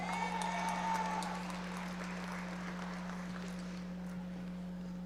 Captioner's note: audience members applauding